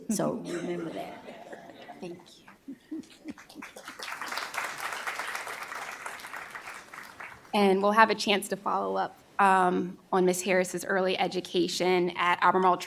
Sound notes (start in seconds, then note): 3.4 applause